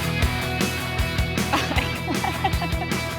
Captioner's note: laughs